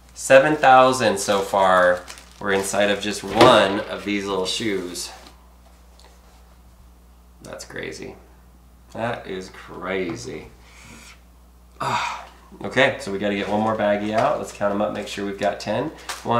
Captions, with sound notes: 7,000, so far, were inside of just one of these little shoes. That's crazy. That is crazy. (groans) Okay, so we got to get one more baggie out. Let's count them up, make sure we've got 10.